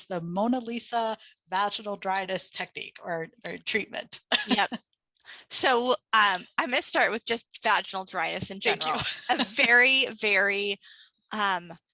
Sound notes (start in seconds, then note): 4.3 laughs